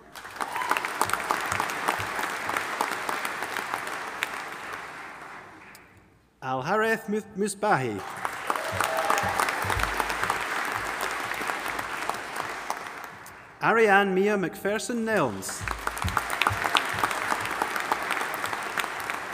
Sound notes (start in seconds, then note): 0.0 audience applauding; 8.0 audience applauding and cheering; 15.1 audience applauding